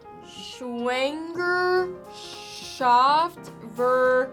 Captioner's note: foreign language